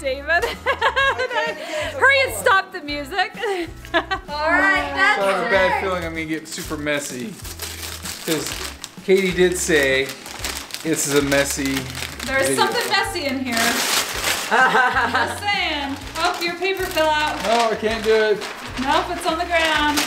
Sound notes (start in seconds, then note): 14.1 paper tearing; 14.4 teenage boy laughing